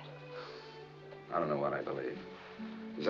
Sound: sighs

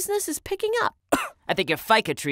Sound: cough

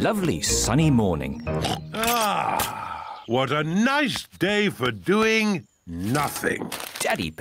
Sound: oinks

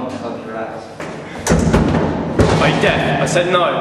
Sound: loud thud

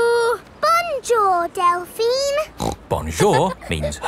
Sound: snorts

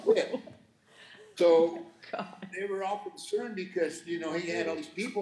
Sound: laughing

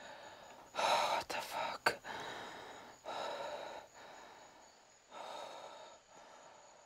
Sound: Andrew exhales

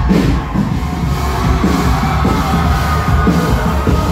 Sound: cheering

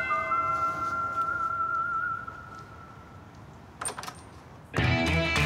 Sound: church bell rings; door opens

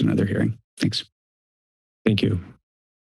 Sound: silence

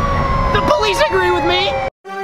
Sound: police siren

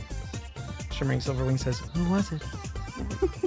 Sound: whispers

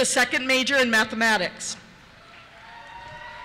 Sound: voiceover; cheers

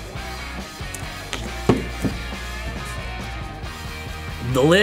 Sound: upbeat music; cup thudding

